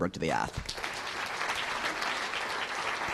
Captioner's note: applause